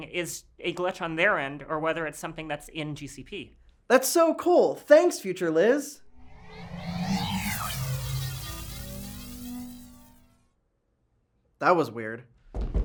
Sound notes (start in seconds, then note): 6.0 sci-fi teleportation sounds